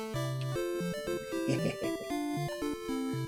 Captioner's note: chuckles